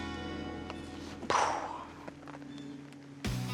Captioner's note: sighs